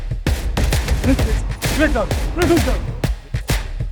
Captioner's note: Chanting: Wrexham! Wrexham!